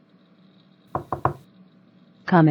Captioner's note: knock on door